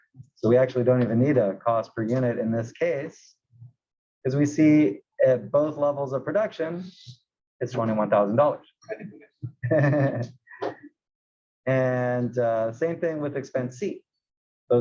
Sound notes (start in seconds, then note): 9.5 laugh